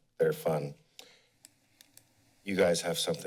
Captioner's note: pause